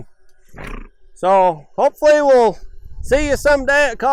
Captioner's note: horse snorts